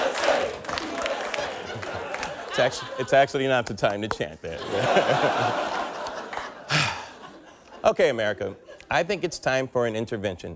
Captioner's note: audience chanting